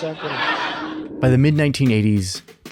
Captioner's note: attendees laughing